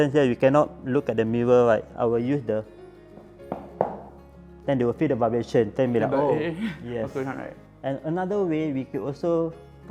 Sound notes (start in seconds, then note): 3.2 stomps his feet